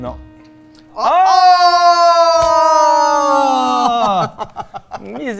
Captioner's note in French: exclamations et rires